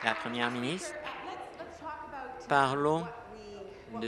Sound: applause

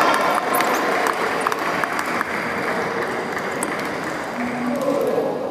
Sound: applause

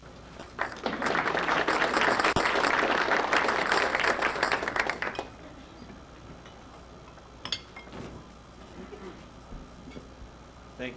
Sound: audience applause

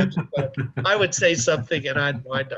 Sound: both laughing

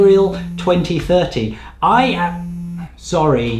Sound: phone buzzing

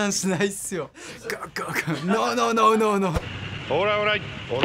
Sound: imitates gulping; speaking Japanese

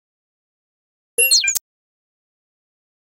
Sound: sound of high tech bleep

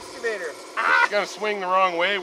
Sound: crew member mimics shouting

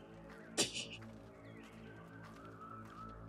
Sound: laughs softly

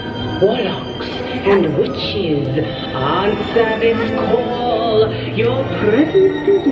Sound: voiceover

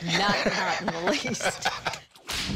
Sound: laughing

